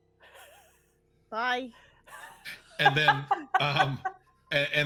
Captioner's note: people chuckling